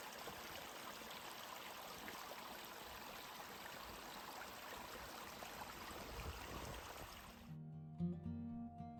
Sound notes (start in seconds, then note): 2.3 trickling water